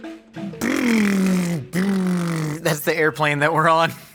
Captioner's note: imitates airplane engine